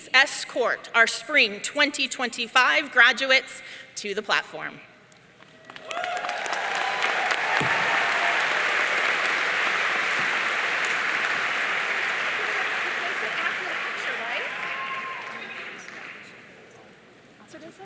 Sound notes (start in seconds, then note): 5.6 audience cheering